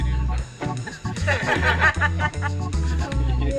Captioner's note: laughing